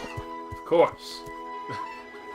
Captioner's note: NinjaFish laughs